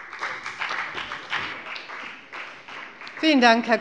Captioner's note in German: Beifall bei der FDP